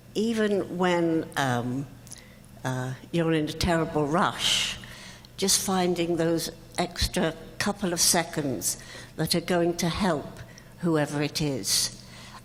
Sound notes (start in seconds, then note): none